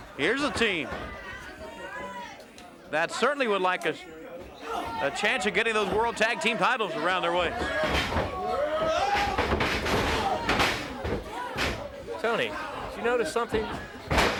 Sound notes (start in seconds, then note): 2.3 blows thudding; 2.3 hands thudding; 7.4 footsteps plodding; 9.2 body thudding; 9.2 wrestlers grunting